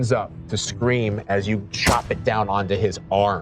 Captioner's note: thud